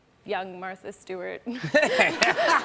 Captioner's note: laughter